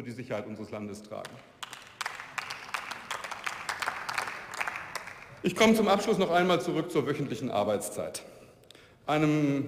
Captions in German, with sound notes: für die Sicherheit unseres Landes tragen. (Beifall) Ich komme zum Abschluss noch einmal zurück zur wöchentlichen Arbeitszeit.